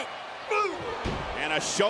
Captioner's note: Shane groans